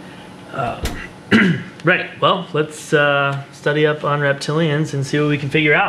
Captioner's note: clears throat